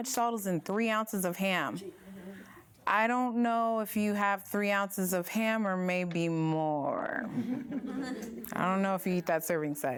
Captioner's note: laughter